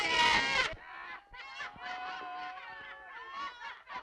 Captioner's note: laughter